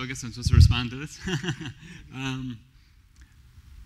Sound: laughs

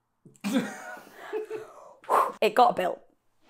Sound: laughter

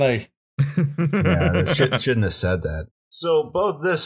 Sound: laughter

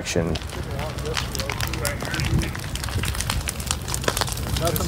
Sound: fire crackling

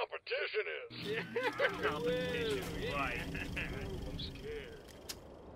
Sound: cheering

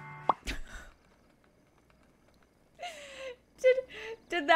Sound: gentle pop; laughs

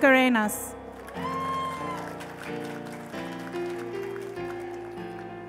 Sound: cheers and applause

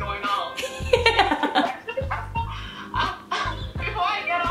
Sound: laughter

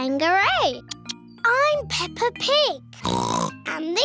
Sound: oinks

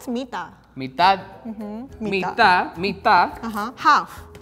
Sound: speaking in foreign language

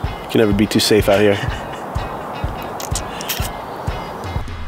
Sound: laughs

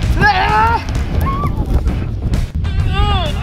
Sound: screams

